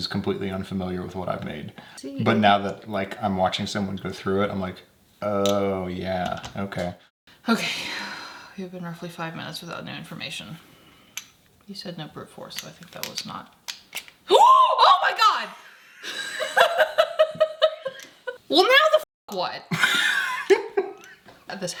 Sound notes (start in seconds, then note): 14.3 exclaiming; 16.0 laughs; 20.4 laughing